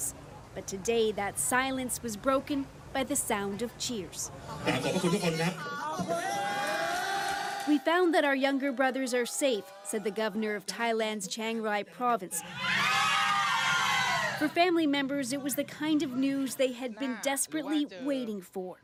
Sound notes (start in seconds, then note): 12.4 cheers and Applause